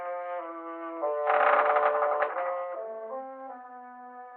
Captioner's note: wood creaking